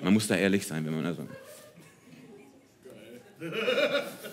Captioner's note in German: Jemand lacht